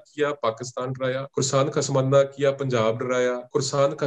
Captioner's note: speaking in Punjabi